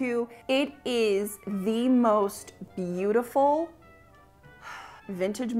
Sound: sighs

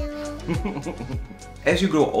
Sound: Harvey laughing

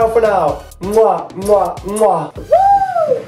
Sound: kisses

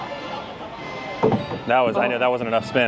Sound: circus music; ball thudding

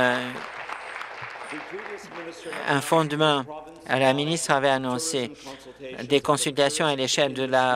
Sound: applause

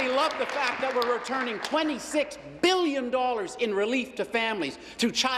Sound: applause

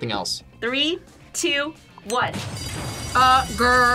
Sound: bell rings

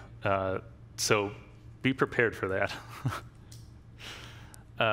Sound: laughs

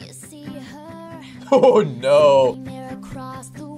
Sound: laughs

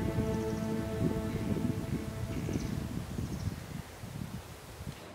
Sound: light wind blowing

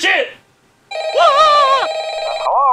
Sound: phone rings continues

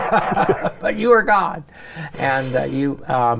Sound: chuckles

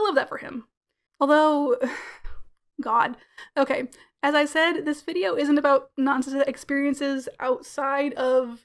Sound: sighs

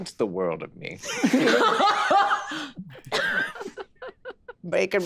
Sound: group laughing

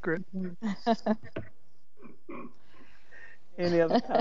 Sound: members laughing

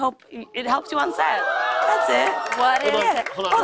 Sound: applause

